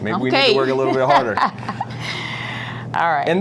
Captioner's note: laughing